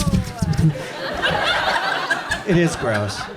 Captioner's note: audience laughs